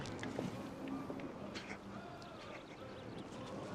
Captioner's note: chuckles